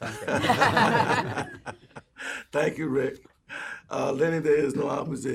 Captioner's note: laughter